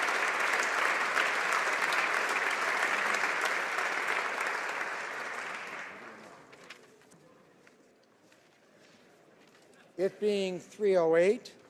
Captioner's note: applause